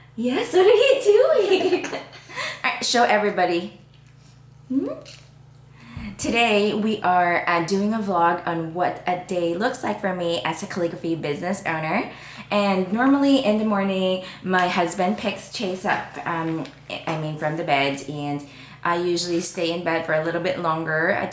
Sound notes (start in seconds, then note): 0.0 laughingly mumbles; 1.2 both laughs